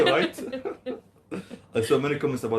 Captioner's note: laugh